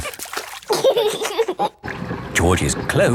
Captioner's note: giggling